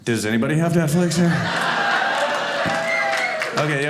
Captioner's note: audience laughing